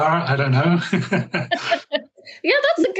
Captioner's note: chuckles